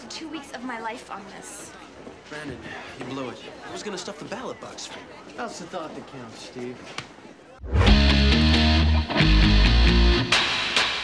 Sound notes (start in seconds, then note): 7.0 hand slapping; 7.6 theme song playing